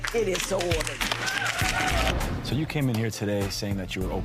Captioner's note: audience applause